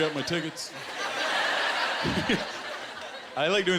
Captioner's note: laughter